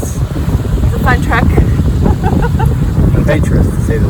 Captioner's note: laughter